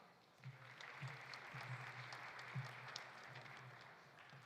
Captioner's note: audience applauding